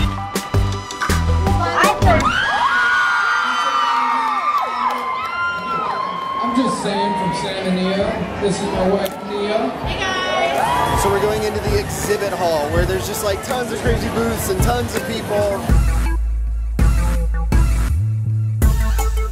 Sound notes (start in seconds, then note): 0.0 energetic music; 1.5 crowd screaming; 16.0 energetic music